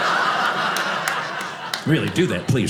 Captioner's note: audience laughing